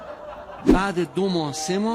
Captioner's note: laughter